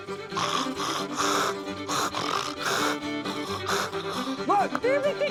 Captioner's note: imitates a hog grunting